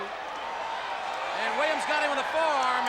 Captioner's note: audience cheers